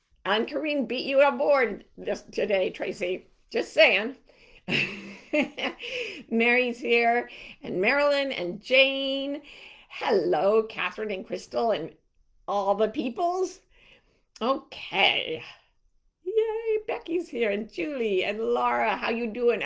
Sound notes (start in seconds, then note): 4.7 chuckling